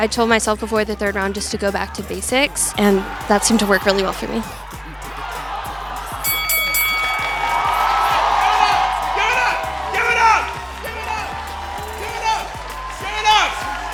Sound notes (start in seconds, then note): 6.4 bell rings; 7.8 crowd cheering